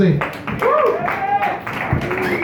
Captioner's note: medium applause